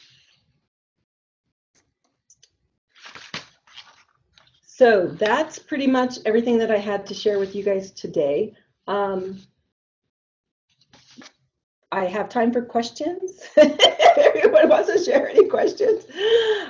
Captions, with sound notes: So that's pretty much everything that I had to share with you guys today. I have time for questions. [LAUGHING] If anyone had any questions.